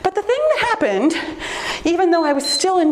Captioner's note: timer beeps